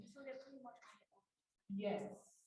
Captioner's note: voice muffling